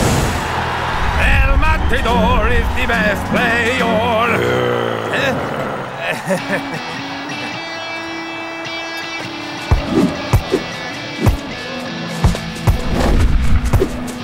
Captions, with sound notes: (crowd cheers) - El Matador is the best player. (De Los Santos growls)